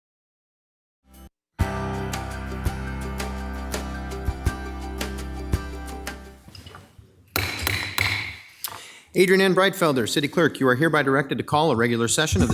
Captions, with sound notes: (bright music) (gavel banging) - Adrienne N. Breitfelder, city clerk, you are hereby directed to call a regular session